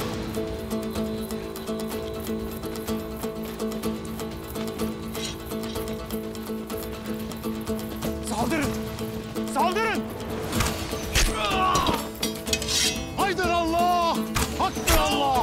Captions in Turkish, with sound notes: (Müzik - Aksiyon) Saldırın! Saldırın! (Ok sesleri) Ah! (Kılıç çekme sesi) Haydin Allah! Haktır Allah!